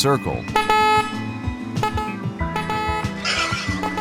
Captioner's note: horn honking